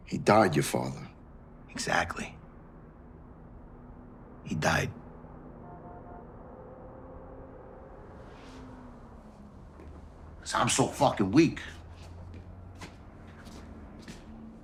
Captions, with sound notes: - He died, your father. - Exactly. He died. (car horn honks) 'Cause I'm so fucking weak.